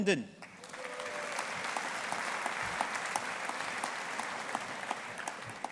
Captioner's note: audience applauding